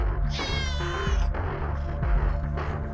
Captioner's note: cat screech